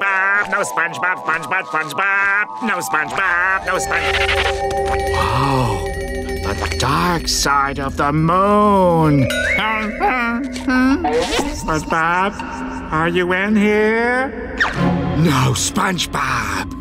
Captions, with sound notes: no SpongeBob SpongeBob SpongeBob! No SpongeBob, no-- Whoa, the dark side of the moon! [whimpering] SpongeBob, are you in here? No SpongeBob!